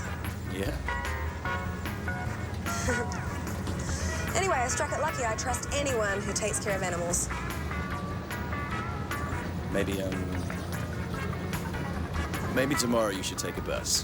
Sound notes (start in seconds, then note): 2.6 laughs nervously